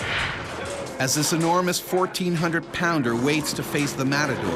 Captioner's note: voiceover